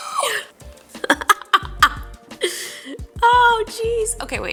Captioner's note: laughing